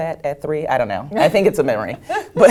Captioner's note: laugh